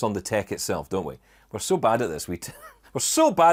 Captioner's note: chuckles